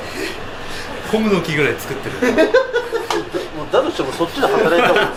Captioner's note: laughs